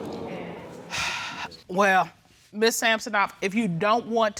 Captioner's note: audience exclaiming; exhales